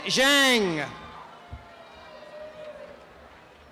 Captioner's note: applause and cheering